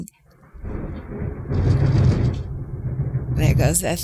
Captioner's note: thunder rumbling